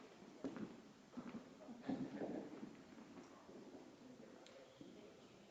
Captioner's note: members chattering